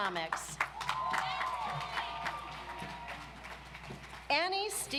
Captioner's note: audience applauds